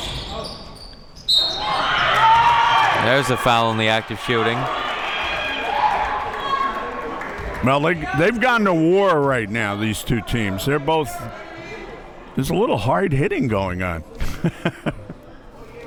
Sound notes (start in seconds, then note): 1.2 whistle blows; 1.4 audience cheers; 14.1 laughs